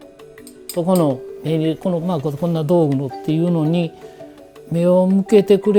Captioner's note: speaking foreign language